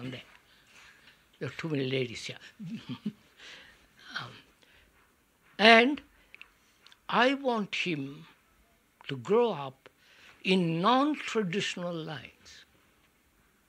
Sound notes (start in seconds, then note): 0.0 laughter; 5.1 laughs